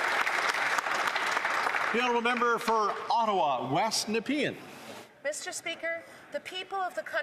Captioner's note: some Applause